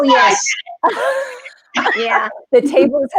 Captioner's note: laughing